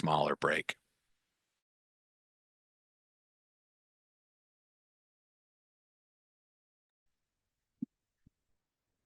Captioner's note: silence